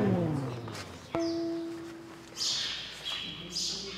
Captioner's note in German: Vogelzwitschern